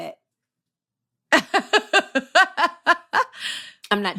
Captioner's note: laughter